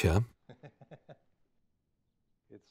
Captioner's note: Mike chuckling